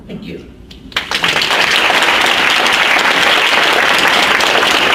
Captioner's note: audience applauds